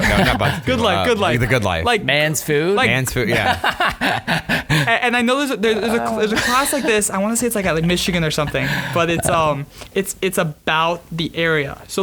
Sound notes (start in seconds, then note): 3.2 laughing